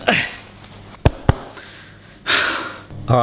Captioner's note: oven gloves thumping; sighs deeply